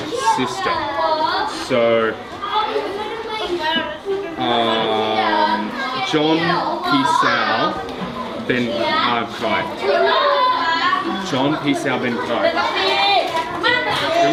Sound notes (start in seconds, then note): 6.3 foreign language